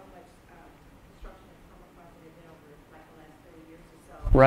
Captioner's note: voiceover